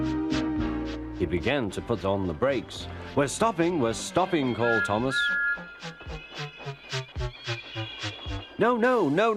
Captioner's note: Thomas brakes, then whistles